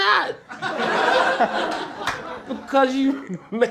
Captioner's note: laughter